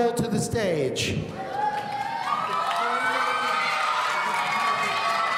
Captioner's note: audience cheering